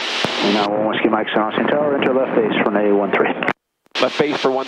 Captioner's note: radio murmuring